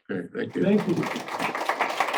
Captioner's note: applause